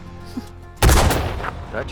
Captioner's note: gunfire echoing